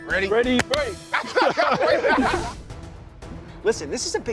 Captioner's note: players laughing